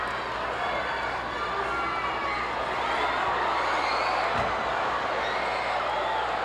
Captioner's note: audience cheering continues